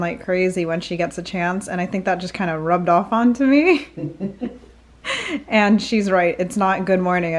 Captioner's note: they both laugh